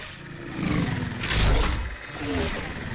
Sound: drone buzzing

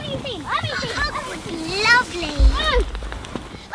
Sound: toy talking

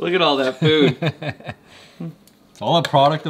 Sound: laughing

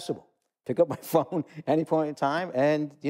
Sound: chuckle

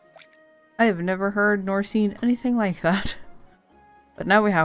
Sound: laughs

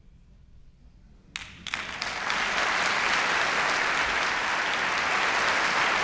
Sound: applause

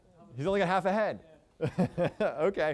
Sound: chuckles

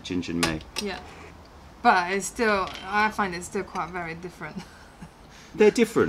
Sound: laughter

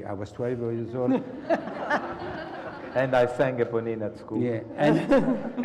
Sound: laugh

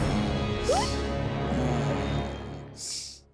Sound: gasps; yelps

